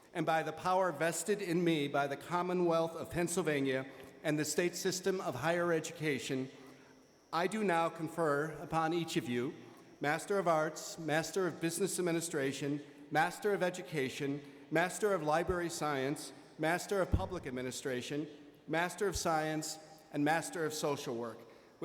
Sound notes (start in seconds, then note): none